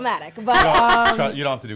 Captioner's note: laughs